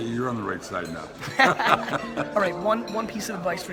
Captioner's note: laughing